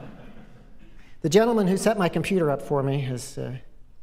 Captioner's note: laughter